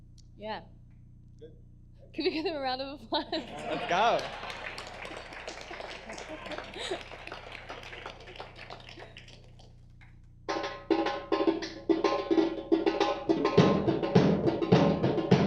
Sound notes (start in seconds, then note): 3.4 audience applause; 10.5 drumming begins